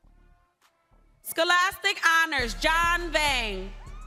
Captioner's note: crowd cheering